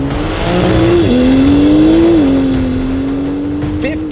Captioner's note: engine revs